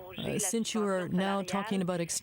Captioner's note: speaking French